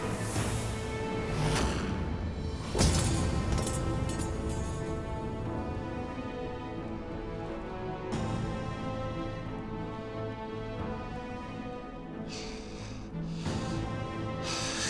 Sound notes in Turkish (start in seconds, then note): 2.7 Hançer düşme sesi; 4.4 Müzik - Gerilim